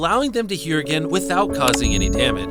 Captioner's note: chime pinging